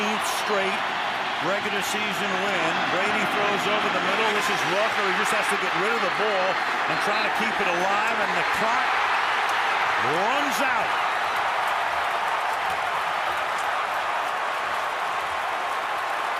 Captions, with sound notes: He just has to get rid of the ball and try to keep it alive. And the clock runs out. [cheering]